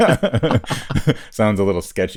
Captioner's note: laughs